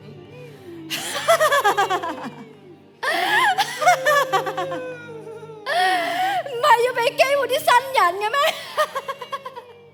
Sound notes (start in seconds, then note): 0.9 laughs